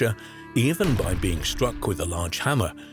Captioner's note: hammer banging